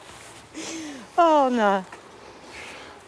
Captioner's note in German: Sie lacht; Sie seufzt